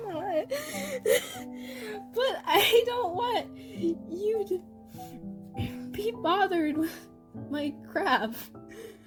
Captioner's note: crying